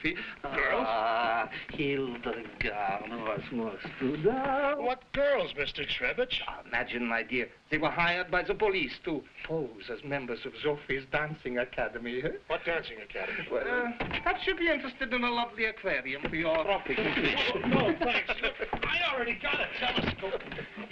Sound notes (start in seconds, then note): 3.1 Burgomil speaking foreign language